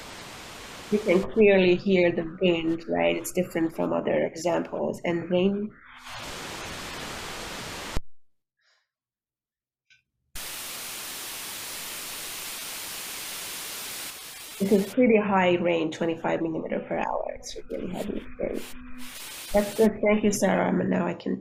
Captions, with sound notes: You can clearly hear the wind, right it's different from other examples. And rain – (Sound of rain) This is pretty high range, 25 millimeter per hour. It's really heavy. That’s good, thank you Sarah, and now I can share.